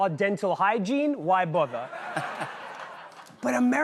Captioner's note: laughter